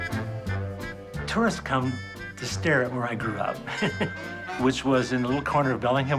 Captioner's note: chuckles